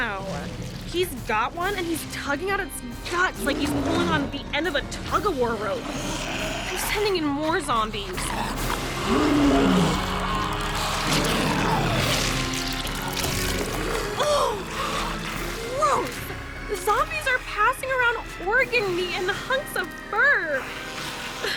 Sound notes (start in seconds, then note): 8.1 roaring, squelching